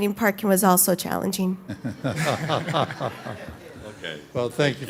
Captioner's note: laughter